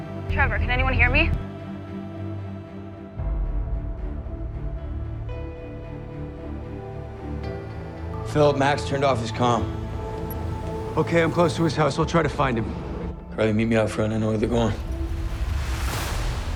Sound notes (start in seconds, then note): 0.4 over comms; 8.3 over comms; 11.1 over comms